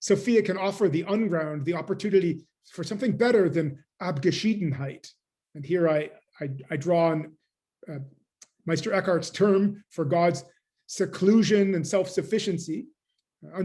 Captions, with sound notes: Sophia can offer the unground the opportunity for something better than [GERMAN]. And here I draw on Meister Eckhart's term for God's seclusion and self-sufficiency,